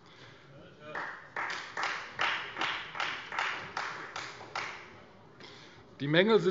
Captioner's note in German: Beifall : Hört, hört!